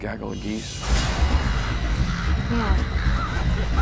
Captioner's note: crows cawing